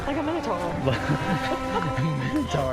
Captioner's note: laughs